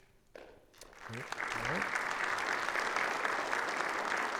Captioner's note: attendees applauding